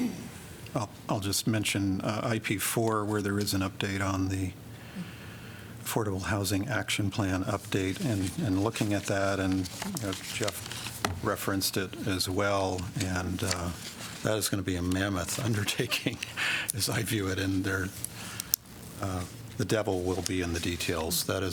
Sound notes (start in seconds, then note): 15.6 laughter